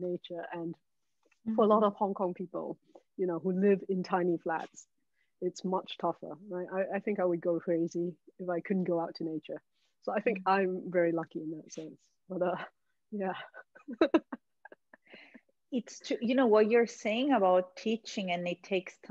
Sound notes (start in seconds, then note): 13.8 all laughing